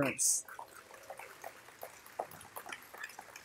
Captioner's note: applause